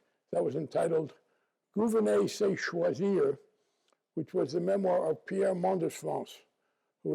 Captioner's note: non-english speech